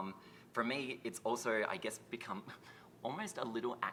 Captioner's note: chuckles